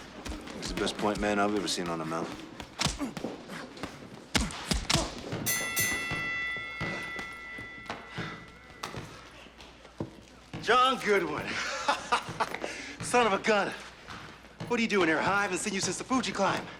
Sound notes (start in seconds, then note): 2.6 boxers grunt; 2.6 punches thudding; 5.4 bell dings; 11.4 laughs